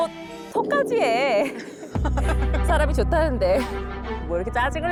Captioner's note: dramatic music; sound effect: upset stomach